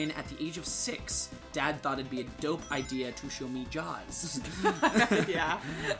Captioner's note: both laughing